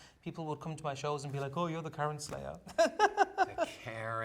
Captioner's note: laughs